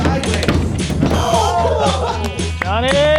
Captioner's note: buzz